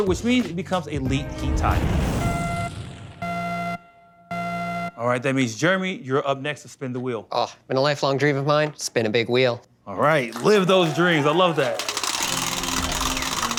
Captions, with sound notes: which means it becomes a Leet Heat tile. [BEEPING] All right, that means, Jeremy, you're up next to spin the wheel. Oh, been a lifelong dream of mine. Spin a big wheel. All right, live those dreams. I love that.